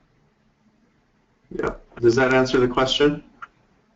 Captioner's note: voiceover